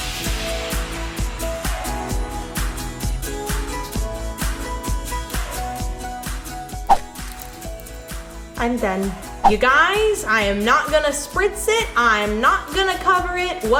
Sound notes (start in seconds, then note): 6.9 whooshing; 6.9 salt rattling